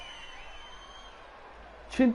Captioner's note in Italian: Applauso